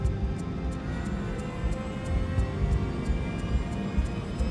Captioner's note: engines whine